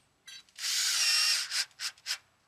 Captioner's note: drilling noises